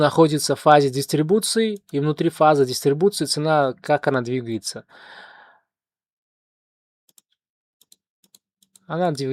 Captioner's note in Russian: тяжело вздыхает